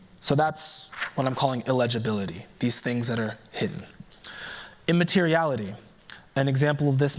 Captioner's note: none